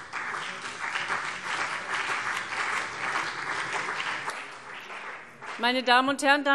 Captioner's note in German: Beifall CDU und BÜNDNIS 90/DIE GRÜNEN